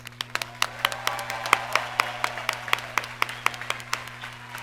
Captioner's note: audience cheers and applauds